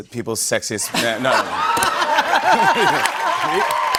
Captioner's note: laughter; cheers and applause